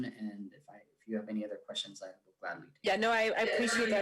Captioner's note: speaks faintly